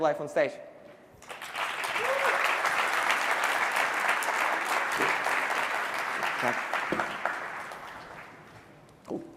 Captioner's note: applause